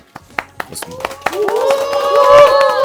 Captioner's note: haha